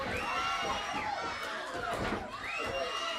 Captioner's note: crowd cheering